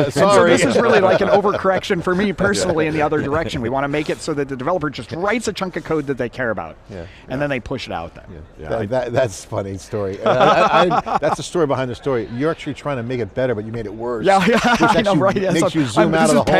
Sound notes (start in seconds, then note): 0.0 laughing; 10.2 laughing